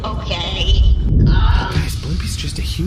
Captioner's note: whispering